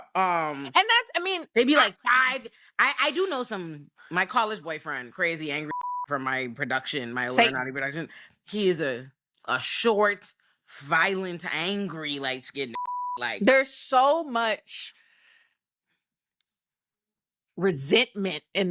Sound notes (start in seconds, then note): 5.7 beep; 12.8 beep